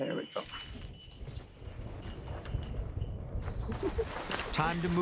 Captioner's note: thunder roaring